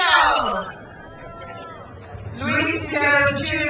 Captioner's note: crowd cheers